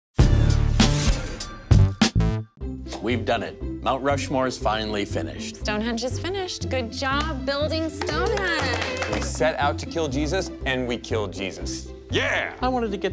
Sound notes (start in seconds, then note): 0.2 hip hop music; 7.8 group applauding